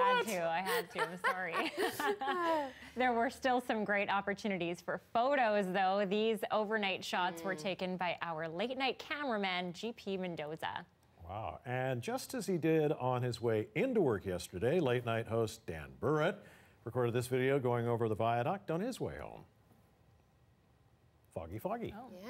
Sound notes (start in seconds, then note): 2.2 laughter